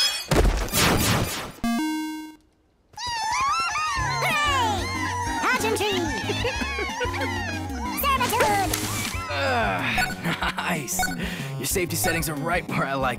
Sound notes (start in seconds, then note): 5.8 laughter